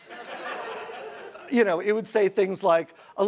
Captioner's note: audience laughs